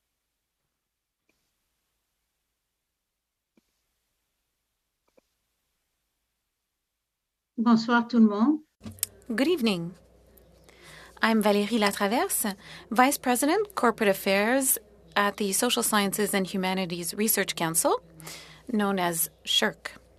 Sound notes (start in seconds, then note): 12.2 speaking French